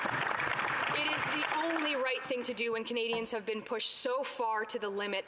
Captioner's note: applause